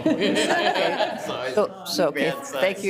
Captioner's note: council laughing